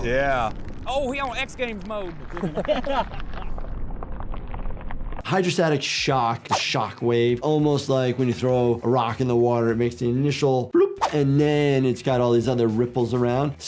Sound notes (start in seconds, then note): 2.2 people laughing